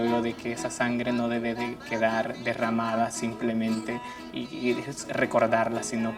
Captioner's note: speaks in foreign language